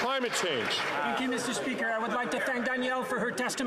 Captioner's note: some Applause